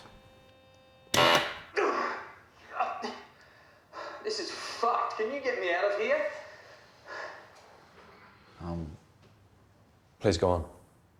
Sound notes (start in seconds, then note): 1.5 machine blaring; 1.8 grunting